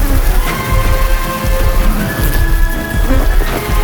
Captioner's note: flies buzzing